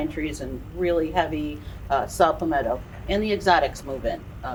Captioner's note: none